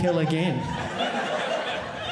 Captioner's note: audience laughing